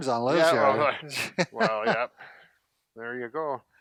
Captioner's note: laughs